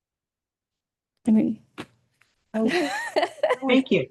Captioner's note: laughs